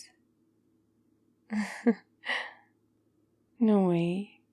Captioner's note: laughs